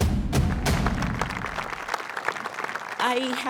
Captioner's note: audience applauding